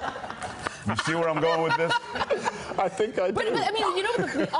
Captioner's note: laughter